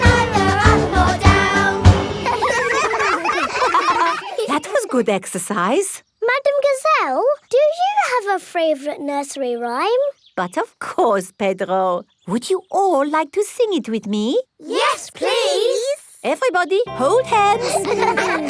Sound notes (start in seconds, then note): 2.1 all giggling